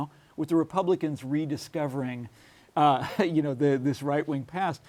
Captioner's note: laughs